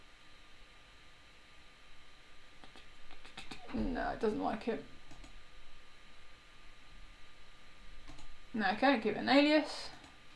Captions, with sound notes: No, it doesn't like it. (mouse clicking) No, I can't give an alias.